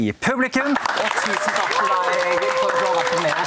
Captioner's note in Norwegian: Applaus